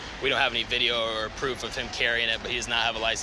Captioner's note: none